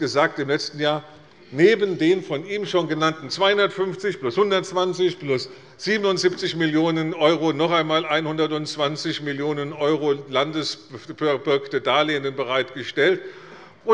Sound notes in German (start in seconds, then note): none